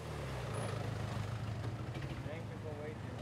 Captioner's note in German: Motorbrummen